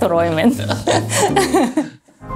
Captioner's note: both laugh